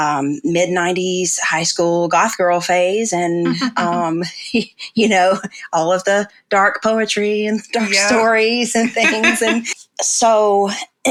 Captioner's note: laughs